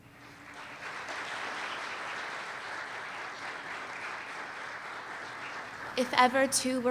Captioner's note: applause